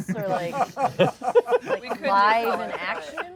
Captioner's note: laughter